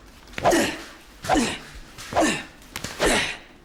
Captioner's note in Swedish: gruntande